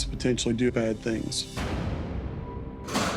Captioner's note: slam